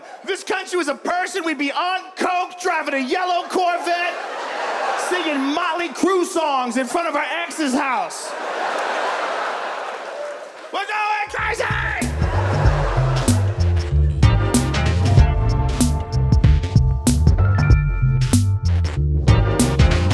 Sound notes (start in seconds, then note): 4.4 audience laughs; 8.4 audience laughs; 12.2 audience laughs; 13.4 upbeat instrumental music